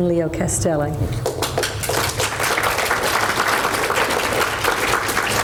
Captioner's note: audience applauds